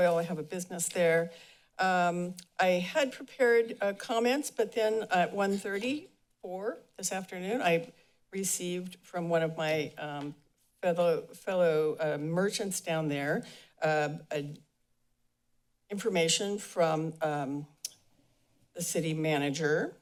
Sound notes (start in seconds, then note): none